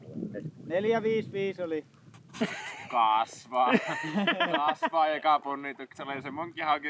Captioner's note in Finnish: naurua